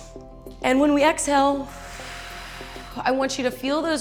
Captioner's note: exhales